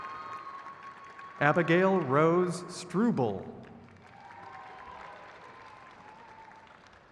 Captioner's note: crowd cheers